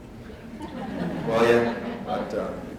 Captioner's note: laughter